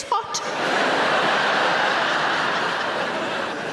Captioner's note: audience laughs